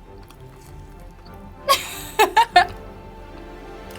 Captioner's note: laughs